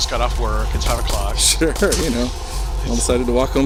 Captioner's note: laughing